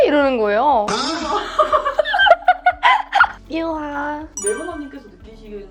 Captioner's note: laugh